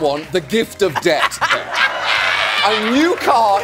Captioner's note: laughing